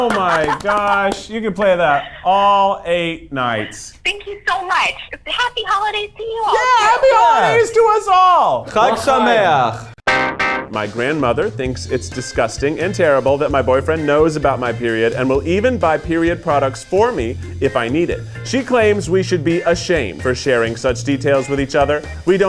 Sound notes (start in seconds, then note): 8.9 speaks Hebrew